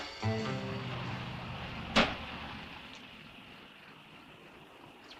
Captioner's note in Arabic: هدير محرك السيارة